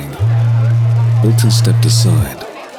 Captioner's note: phone vibrates